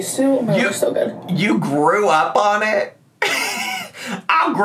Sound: laughs

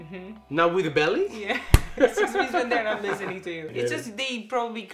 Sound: speaks Polish

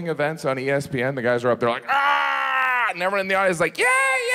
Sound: grunts

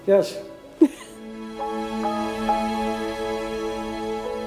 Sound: chuckling

